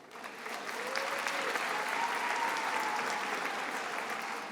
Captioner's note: attendees applauding